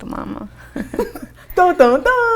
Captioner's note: laughing